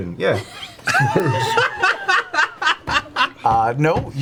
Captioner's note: all laugh